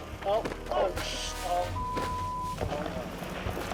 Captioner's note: beeps